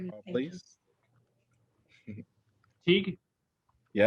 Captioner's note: laughter